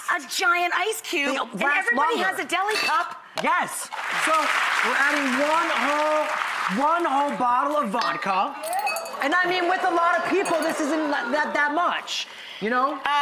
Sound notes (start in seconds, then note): 3.9 audience applause; 8.8 audience woo-hoo